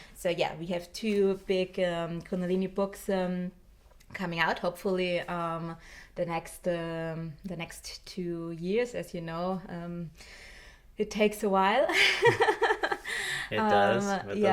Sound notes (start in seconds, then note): 12.0 chuckles